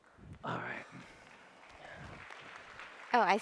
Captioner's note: applause